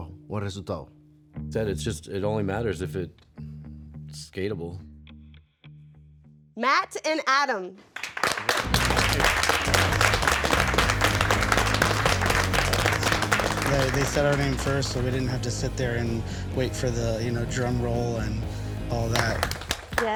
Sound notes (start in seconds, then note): 7.8 contestants applaud